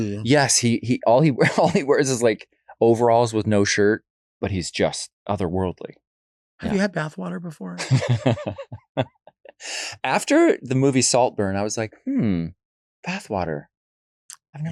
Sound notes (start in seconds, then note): 7.8 Cheyenne laughs